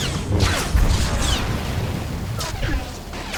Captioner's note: explosion